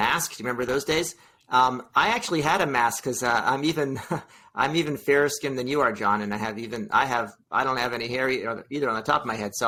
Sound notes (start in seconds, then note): 3.8 chuckles